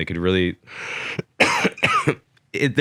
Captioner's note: coughs